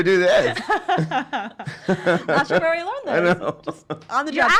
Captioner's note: laughing